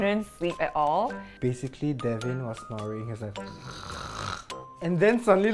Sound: imitates snoring

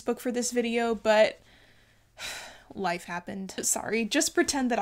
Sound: sighs

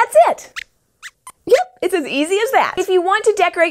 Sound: squeaks squeaks

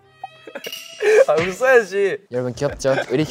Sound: slaps

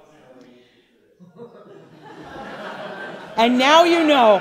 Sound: audience laughing

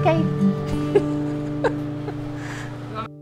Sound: laughing

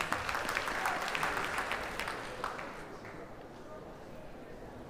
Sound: audience applauds

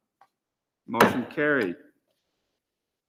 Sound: gavel raps

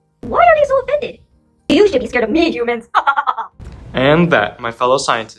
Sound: evil laughter

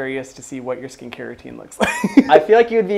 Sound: laughs

